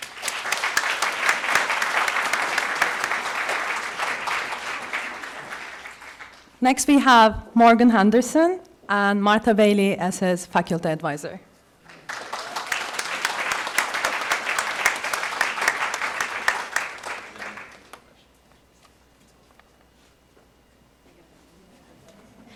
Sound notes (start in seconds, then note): 11.8 applause